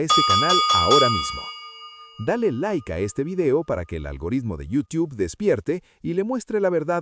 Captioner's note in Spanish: campana